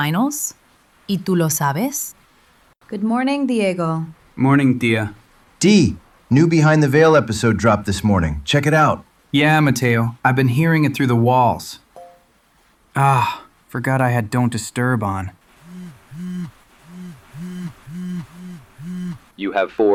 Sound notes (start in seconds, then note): 0.8 Spanish; 9.4 sarcastic; 12.0 phone unlock; 16.8 SFX: Phone buzzing like crazy